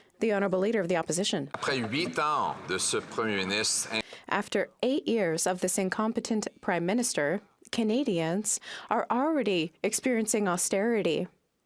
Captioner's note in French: applaudissements